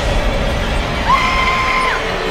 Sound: scream

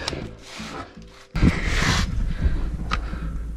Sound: rustling

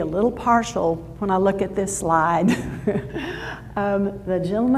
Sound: laughs

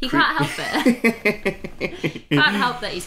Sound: laughs

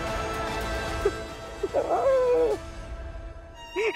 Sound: crying

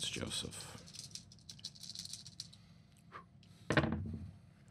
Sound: dice rattling

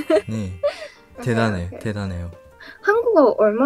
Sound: Korean

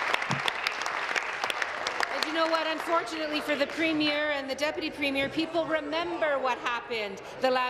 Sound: applause

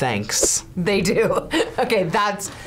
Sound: laughs

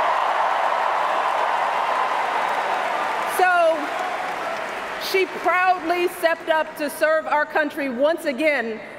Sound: cheers, applause

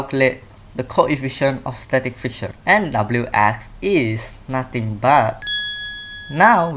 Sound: bell ding

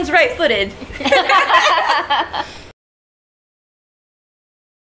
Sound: all laughing

